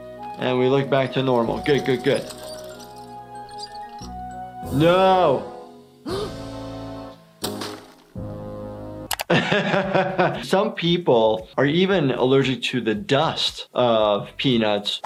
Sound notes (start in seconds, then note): 3.3 wheel squeaking; 6.1 Lumpy gasps; 9.2 laughing